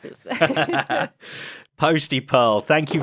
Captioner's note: BOTH laugh